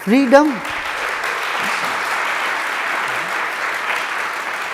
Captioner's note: audience applauds